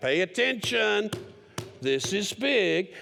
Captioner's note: hits table